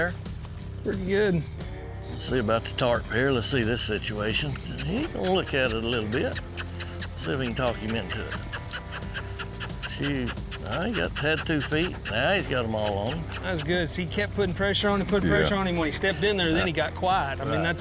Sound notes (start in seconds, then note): 7.3 makes squeaky sound